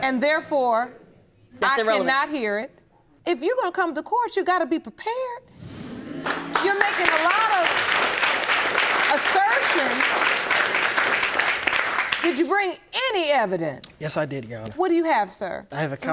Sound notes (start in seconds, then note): 6.0 audience agreeing